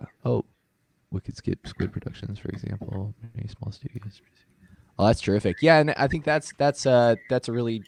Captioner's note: reading to himself